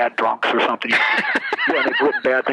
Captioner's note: laughs